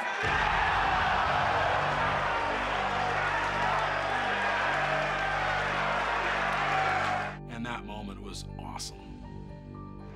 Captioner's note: applause